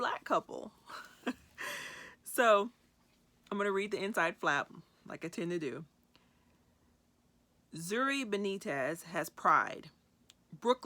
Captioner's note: chuckles